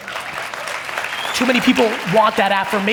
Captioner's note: audience applaud